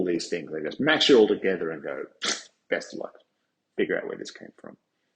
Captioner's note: stupid face noise